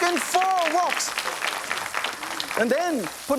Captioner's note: audience claps